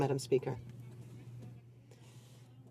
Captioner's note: speaking French